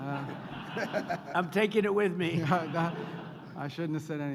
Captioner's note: laughter